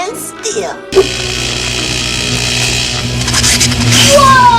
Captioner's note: laser sounds